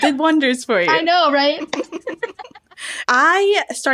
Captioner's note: laughter